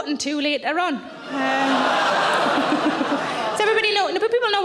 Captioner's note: audience laughing; audience gasping